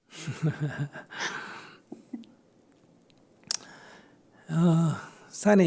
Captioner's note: Sunim Laughter